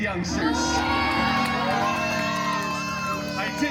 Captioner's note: guests cheering